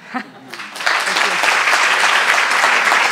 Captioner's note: applause